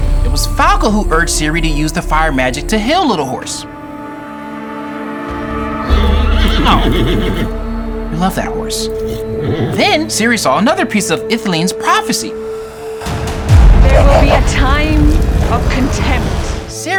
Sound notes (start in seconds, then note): 3.8 somber dramatic music; 5.8 Little Horse neighing; 13.1 tense dramatic music